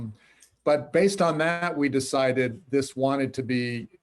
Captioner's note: laughs